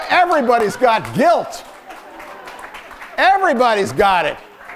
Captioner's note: laughter and scattered applause